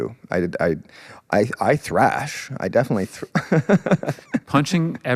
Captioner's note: laughs